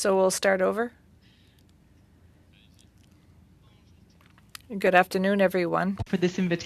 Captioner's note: speaking French